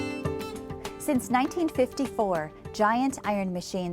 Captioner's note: voiceover